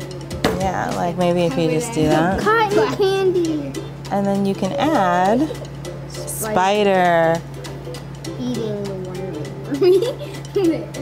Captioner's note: laughter